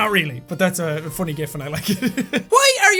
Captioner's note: laughs